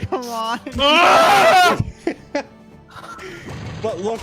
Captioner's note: loud yell of anguish